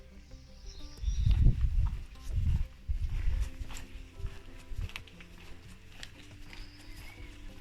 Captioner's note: walking